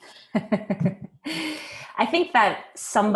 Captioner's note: chuckling